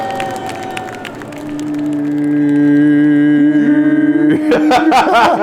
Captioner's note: all vocalizing; laughing